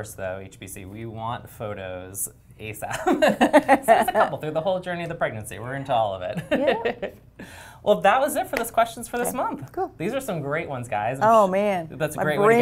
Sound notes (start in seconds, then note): 3.1 laugh; 6.5 laugh